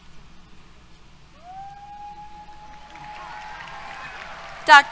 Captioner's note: applause, Cheers